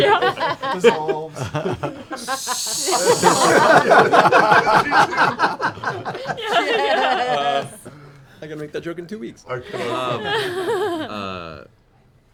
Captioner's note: sizzle